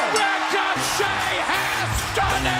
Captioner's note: bell ringing